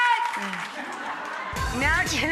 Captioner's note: audience laughs